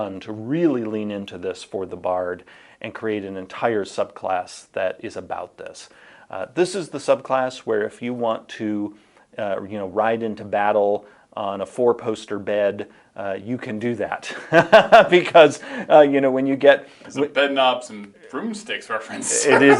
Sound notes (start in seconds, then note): 14.3 laughing; 19.1 chuckling; 19.1 laughing